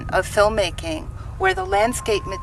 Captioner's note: alarm beeping